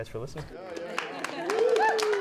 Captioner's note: applause